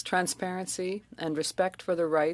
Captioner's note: speaking French